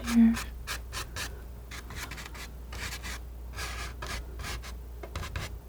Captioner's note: scratching; scratching